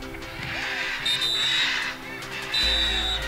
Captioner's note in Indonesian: Peluit